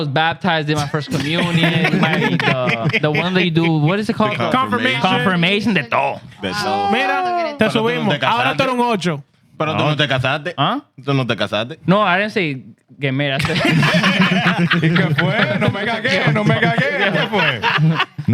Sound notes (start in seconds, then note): 2.6 laughing; 6.9 speaking In Foreign Language; 12.5 speaking In Foreign Language; 13.4 laughing; 15.4 speaking In Foreign Language